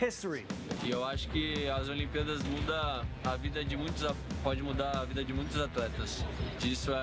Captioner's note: in Portuguese